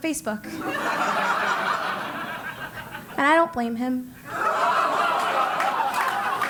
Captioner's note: laugh